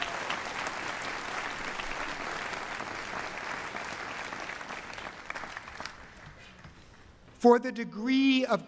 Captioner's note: cheering and applause